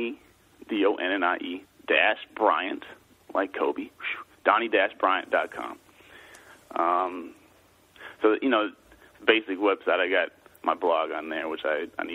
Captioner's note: chuckles